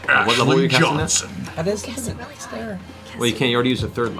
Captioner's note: whispers